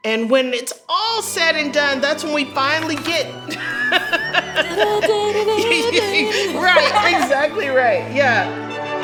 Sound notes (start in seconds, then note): 2.8 laughing; 5.7 humming